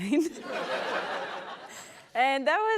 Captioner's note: laughter